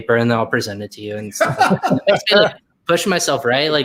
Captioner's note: laughs